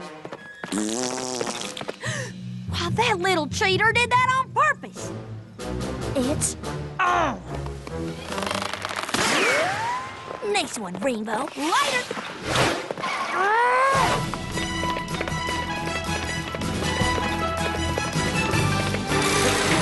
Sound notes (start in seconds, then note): 0.7 gasps